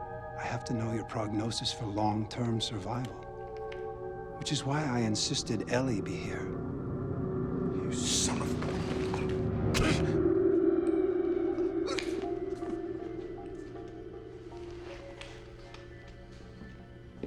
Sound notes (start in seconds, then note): 11.8 groaning